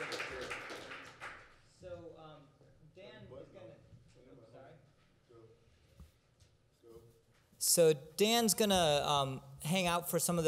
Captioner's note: applause